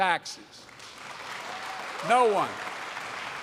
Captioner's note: applause